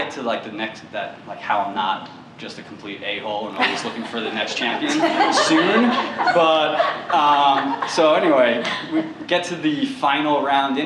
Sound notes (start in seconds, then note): 3.6 laughter